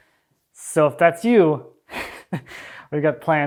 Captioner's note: chuckles